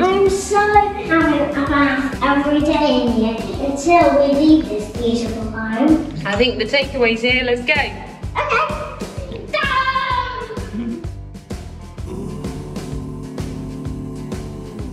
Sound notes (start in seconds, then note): 9.0 makes car rev noises!